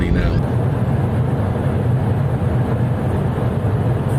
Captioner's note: plane engine roaring